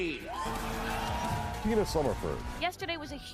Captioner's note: loud cheering